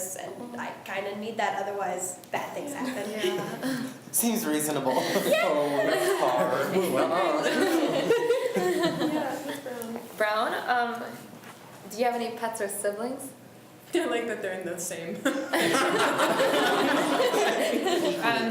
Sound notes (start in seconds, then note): 4.9 laughs; 6.3 students talk amongst themselves; 15.2 laughs